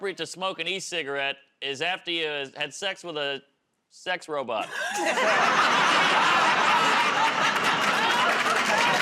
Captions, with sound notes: to smoke an e-cigarette is after you've had sex with a sex robot. [ Laughter ]